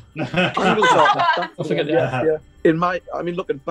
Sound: laughing

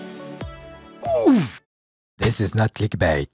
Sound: Mario 64 oof SFX

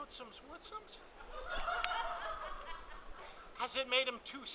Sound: audience laughing

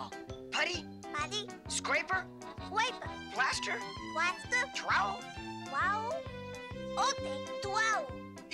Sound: none

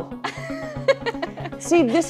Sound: laughs

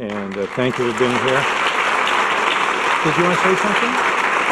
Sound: audience clapping

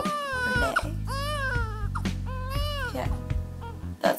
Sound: baby cries

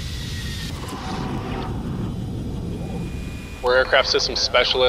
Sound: propellers rotating heavily; gun firing rapidly

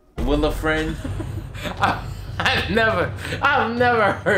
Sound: laughing

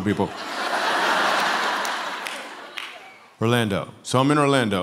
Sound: laughter

